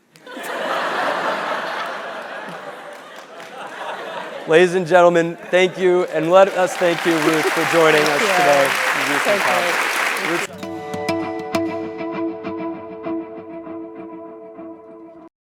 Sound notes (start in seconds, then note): 0.6 laugh; 8.5 applause